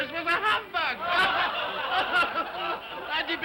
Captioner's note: all laugh